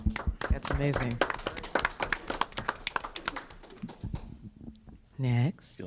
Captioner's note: applause